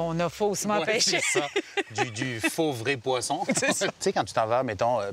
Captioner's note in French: rires